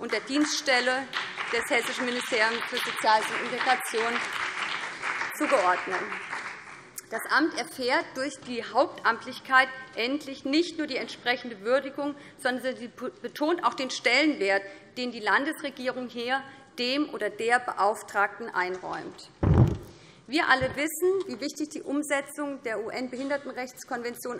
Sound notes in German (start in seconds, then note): 5.6 Beifall BÜNDNIS 90/DIE GRÜNEN und vereinzelt CDU